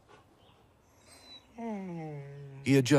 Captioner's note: whimpering